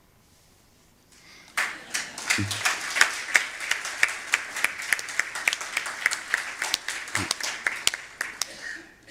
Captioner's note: aplause